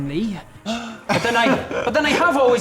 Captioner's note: gasp